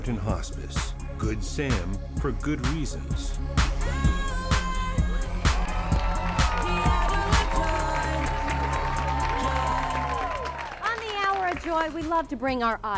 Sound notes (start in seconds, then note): 3.7 applause